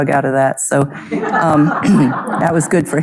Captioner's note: audience laughing